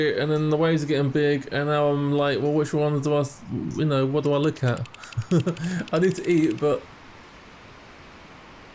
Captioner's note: laughs